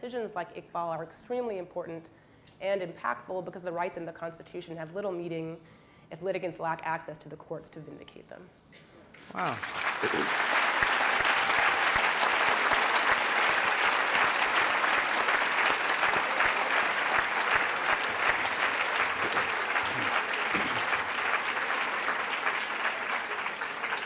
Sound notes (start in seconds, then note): 9.4 applause